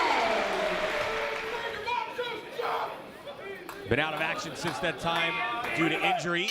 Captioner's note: applause